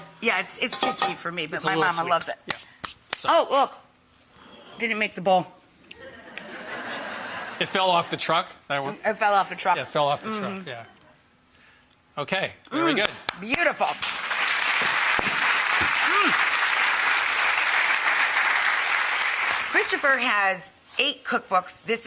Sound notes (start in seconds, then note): 6.0 audience laughing; 13.0 audience clapping; 13.9 clapping